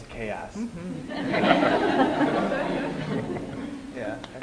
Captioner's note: laughter